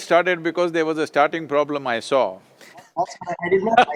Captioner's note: laughs